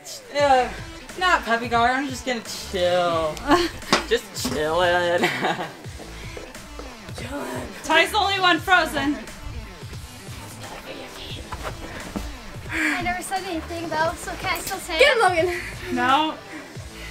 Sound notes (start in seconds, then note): 5.0 laughs